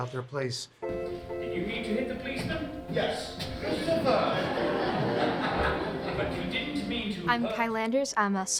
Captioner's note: background Speech